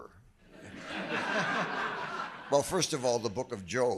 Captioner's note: audience laughing